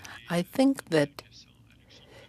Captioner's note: speaking French